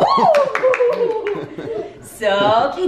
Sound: laughing; clapping

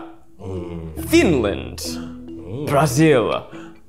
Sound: they ooh; they ooh again

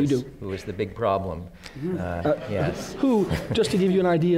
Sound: laughter

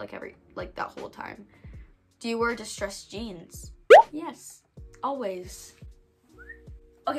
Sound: whistles

